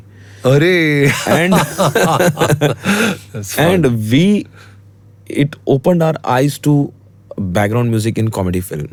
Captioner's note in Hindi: हंसी